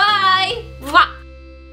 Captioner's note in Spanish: besos